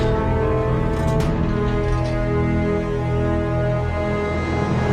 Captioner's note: electrical rumbling